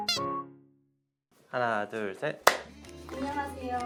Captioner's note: clap